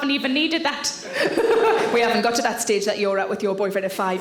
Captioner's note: laughing